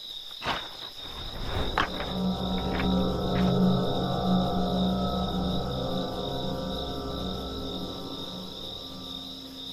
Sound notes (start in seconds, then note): 1.0 air swooshing; 3.4 suspenseful music